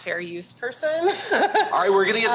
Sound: chuckles

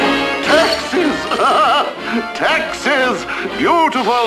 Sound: laughs

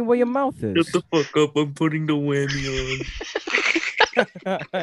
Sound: chuckles

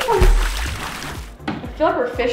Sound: water splash

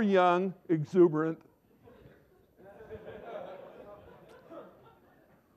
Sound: laughter

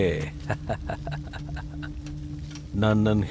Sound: laughs

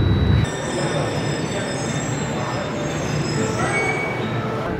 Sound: train screeching; people chattering

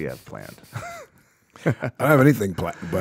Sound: chuckles

